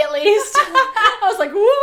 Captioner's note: both laughs